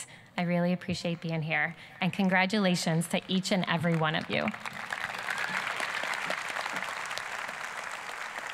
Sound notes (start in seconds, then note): 5.0 applause